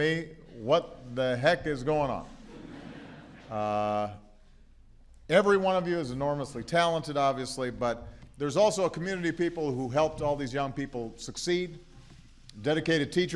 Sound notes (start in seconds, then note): 2.4 laughter